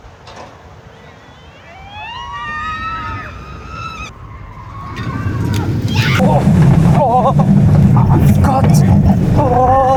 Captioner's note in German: schreien